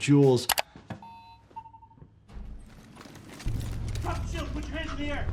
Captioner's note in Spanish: pitidos del ascensor